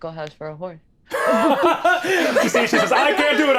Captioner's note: all laughing